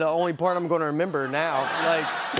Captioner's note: laughter